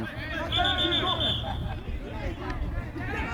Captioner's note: whistle